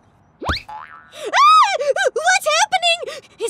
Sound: shrieks

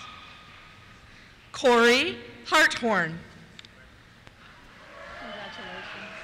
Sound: cheers

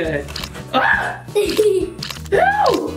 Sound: screams

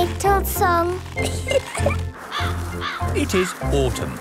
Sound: giggling; birds cawing

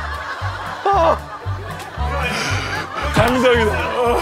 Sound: laughing

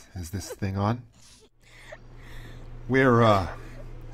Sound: nearby crying

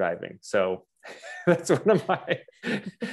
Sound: laughs

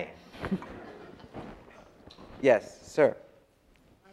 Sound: audience laughs

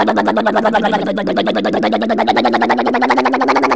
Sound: crane motor

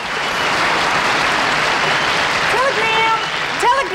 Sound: audience applauding

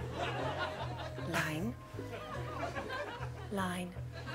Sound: audience laughing

